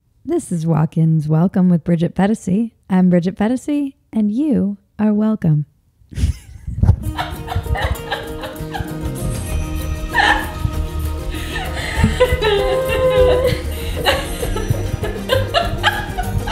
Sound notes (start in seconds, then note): 6.1 laughing; 6.9 upbeat music